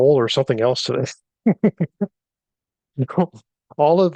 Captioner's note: laughs